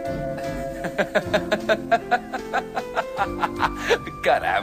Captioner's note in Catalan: riure